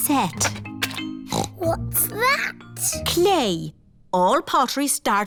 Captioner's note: snorts